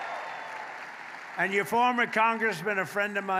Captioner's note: applause